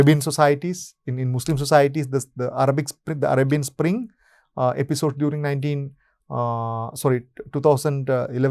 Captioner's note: Arabic